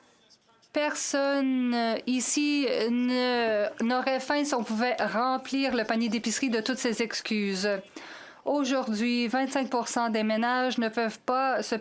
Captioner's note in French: voix de l'interprète